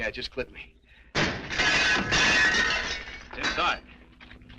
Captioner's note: metal clanging